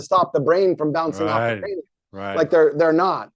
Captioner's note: faintly speaking